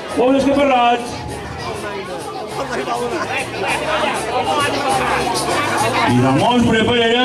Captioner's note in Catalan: Renou del públic